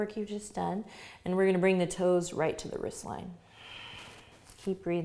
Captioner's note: inhales deeply; exhales